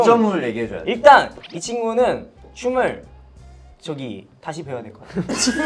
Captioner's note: letting it all out